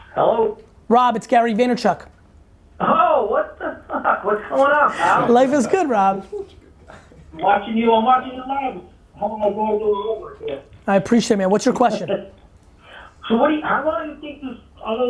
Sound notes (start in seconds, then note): 4.4 laughs; 7.0 chuckles; 7.6 group laughs